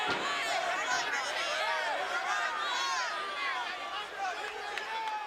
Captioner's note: crowd chattering